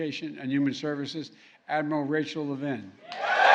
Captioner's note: applause